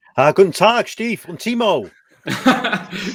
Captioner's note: speaks German